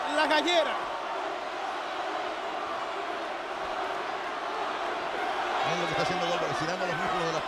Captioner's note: applause